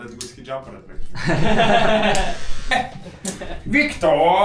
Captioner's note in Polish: śmiech